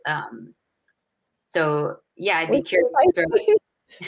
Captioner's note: murmurs